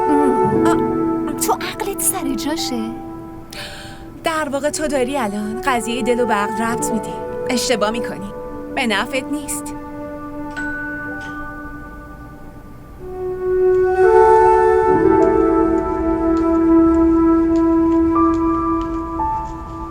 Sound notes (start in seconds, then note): 10.5 door bell rings